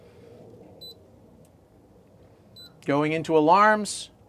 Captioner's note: beeping